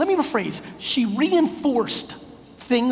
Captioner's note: none